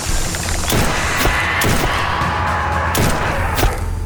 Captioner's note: gunfire popping